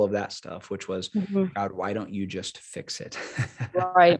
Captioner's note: laughs